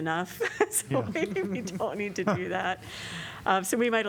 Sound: laughter

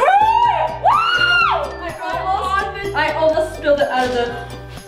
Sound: collective excited screams

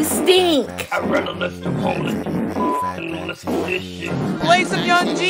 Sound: beep

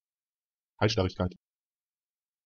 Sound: fast Pronunciation

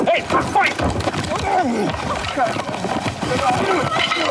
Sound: grunting

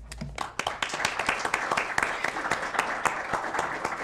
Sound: audience applauding

